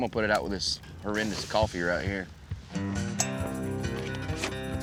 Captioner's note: fire sizzles out